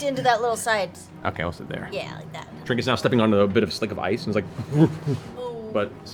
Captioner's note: unbalanced bear noises